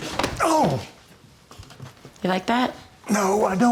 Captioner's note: Tommy wincing; punch thumping